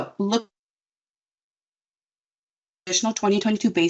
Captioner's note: audio cuts out